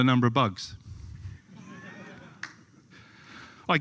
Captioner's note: laughter